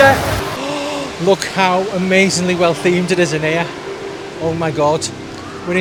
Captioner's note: gasps